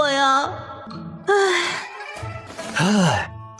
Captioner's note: sigh